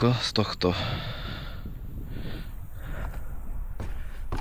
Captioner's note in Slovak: vzdychanie